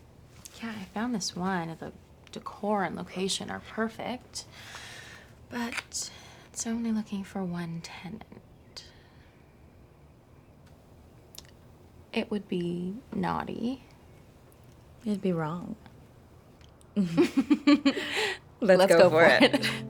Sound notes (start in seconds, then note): 17.0 both laughing